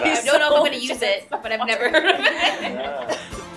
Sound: laughing

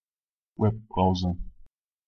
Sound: fast Pronunciation

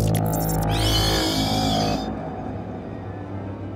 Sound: shriek; suspenseful horror music

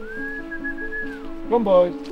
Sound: whistling

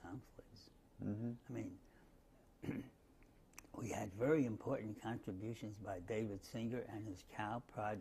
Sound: cough

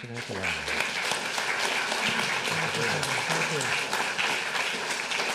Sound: audience applauding

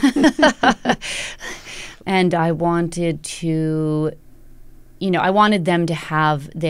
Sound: laughter

